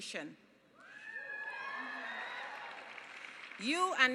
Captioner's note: cheering and applause